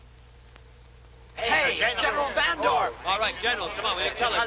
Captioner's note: reporters clamoring